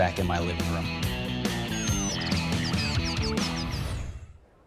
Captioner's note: robotic beeping